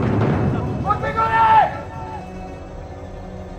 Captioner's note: yells